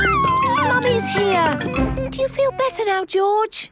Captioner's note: George crying